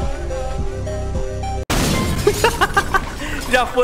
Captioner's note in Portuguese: Risos